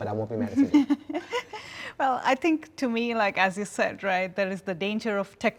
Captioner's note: laughs